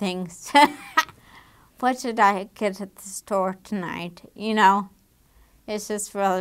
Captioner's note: laughing